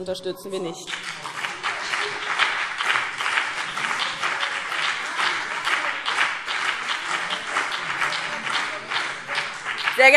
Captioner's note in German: Beifall BÜNDNIS 90/DIE GRÜNEN